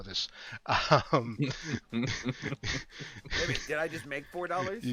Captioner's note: laughter